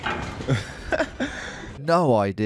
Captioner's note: laughs